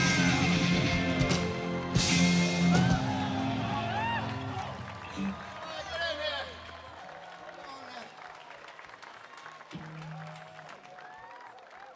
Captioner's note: applause